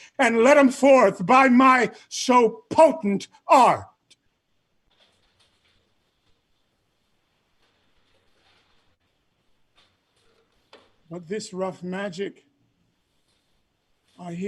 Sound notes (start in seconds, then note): none